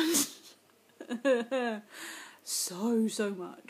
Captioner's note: laughs